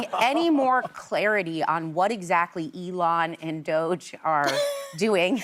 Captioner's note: laughter